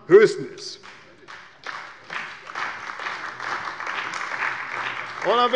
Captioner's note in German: Beifall bei der CDU und dem BÜNDNIS 90/DIE GRÜNEN